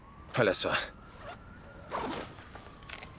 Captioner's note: zipper opens